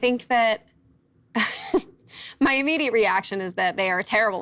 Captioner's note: laughs